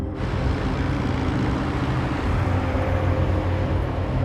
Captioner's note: truck engine revving